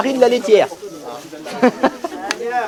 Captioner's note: laugh